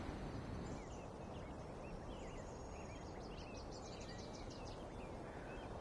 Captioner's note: birds chirping